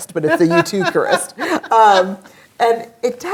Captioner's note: laughs